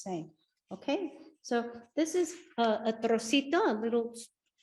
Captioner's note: speaks Spanish